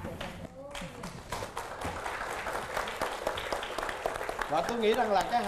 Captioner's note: applause